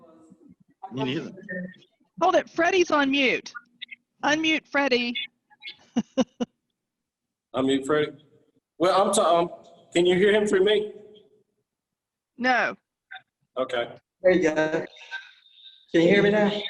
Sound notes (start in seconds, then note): 5.6 chuckling